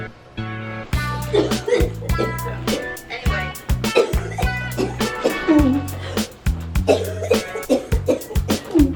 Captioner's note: coughing